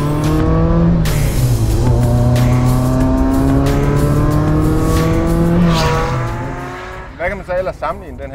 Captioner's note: The sound of the 288 GTO